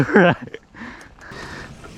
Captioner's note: laughs playfully